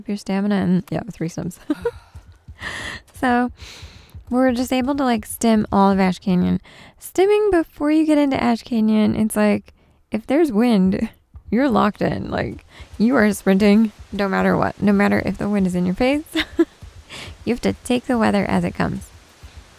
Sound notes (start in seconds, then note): 1.6 giggles; 16.3 giggles